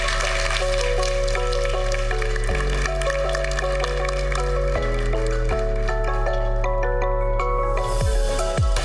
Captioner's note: applause